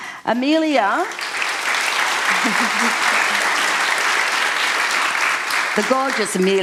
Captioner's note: applause